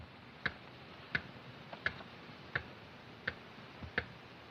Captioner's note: ticking Continues